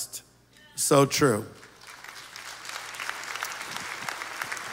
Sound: applause

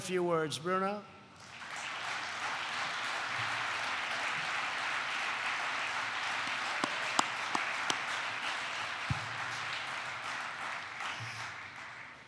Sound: applause

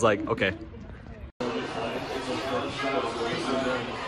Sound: basketball game on tv in background

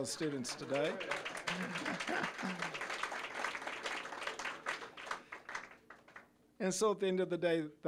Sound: applause; audience laughing

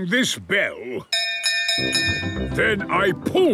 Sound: bell chimes

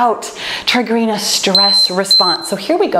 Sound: timer beeping

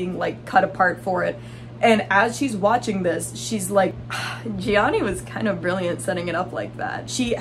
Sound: sigh

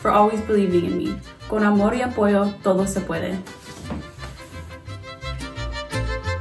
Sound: speaks in foreign language

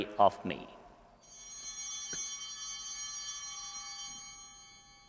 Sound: bell ringing

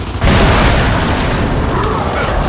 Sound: gun fires

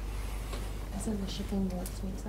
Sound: soft Woman's Voice

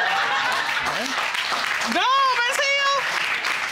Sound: audience laughing; audience applauding

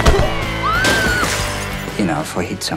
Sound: screams

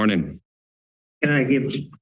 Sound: silence

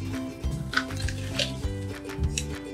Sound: crunch

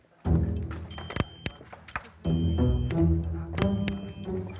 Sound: clicking

